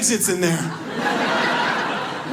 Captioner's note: audience laughs